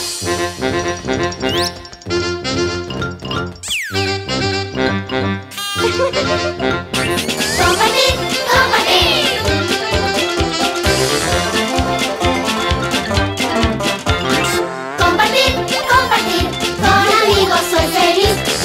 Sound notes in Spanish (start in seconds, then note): 0.1 Música alegre; 5.8 Risas; 9.4 Música alegre